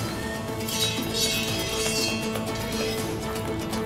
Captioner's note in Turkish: Kılıç çekme sesi